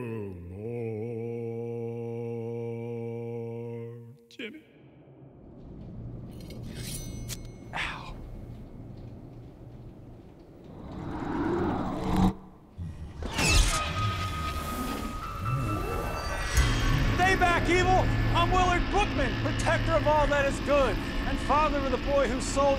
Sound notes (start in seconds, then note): 6.2 metal sings; 10.7 demonic sucking